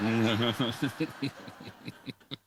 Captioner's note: laughter